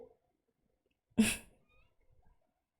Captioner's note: chuckles